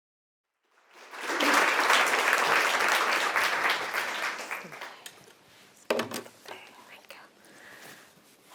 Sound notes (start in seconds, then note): 0.7 audience applauding